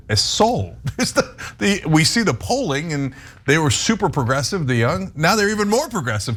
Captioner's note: laugh